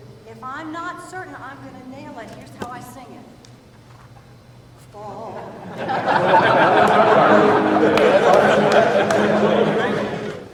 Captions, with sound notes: If I'm not certain I'm gonna nail it, here's how I sing it, "...Fall-." (choir laughing)